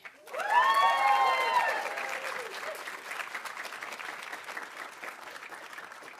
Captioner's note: audience applauding; audience cheering